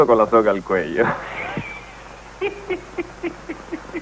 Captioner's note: giggling